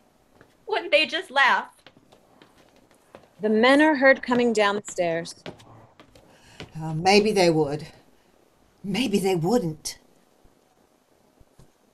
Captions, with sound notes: wouldn't they just laugh! (footsteps) - The men are heard coming down the stairs. - Maybe they would, maybe they wouldn't.